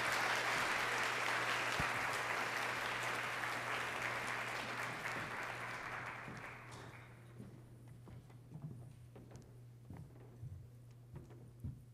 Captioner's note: applause